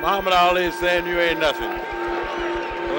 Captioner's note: bell sounds